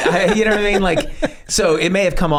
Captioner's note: Charlie laughs